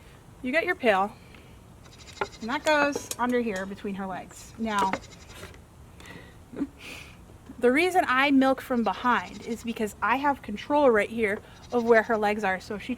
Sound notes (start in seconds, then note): 6.5 chuckles